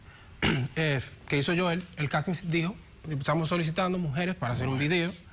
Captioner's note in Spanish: Carraspea